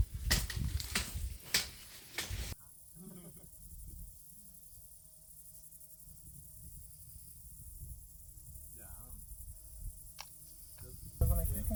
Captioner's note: dutch chatter